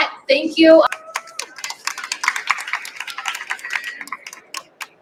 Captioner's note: cheers and applause